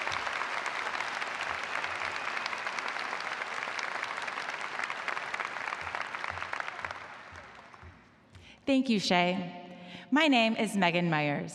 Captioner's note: applause